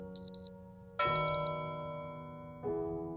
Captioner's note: beep Sound